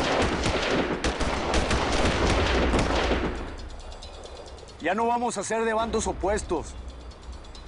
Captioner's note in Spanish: Disparos